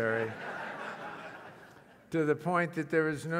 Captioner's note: laugh